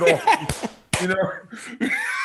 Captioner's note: both laughing